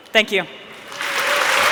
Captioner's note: cheering and Applause